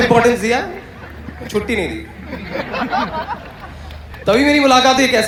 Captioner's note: audience Laughter